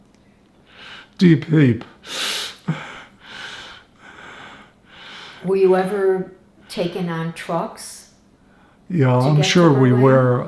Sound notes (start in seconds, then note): 2.6 laughing